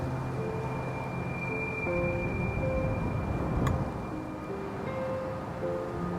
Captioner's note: high frequency humming; gentle music